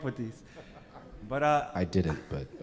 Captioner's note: laughing